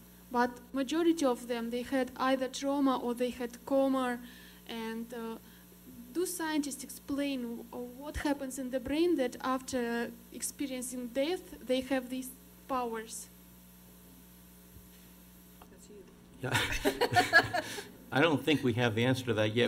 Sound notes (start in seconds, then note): 16.4 laughter